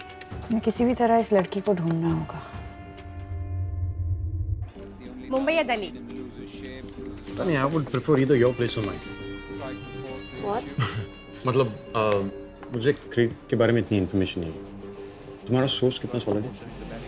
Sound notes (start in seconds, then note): 10.7 Keshav laughs